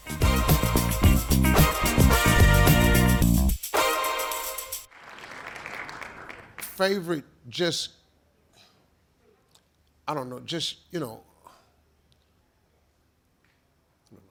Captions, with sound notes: (upbeat music) (audience applauding) - Favorite, greatest entertainer I've ever saw